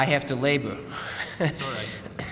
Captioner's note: laughter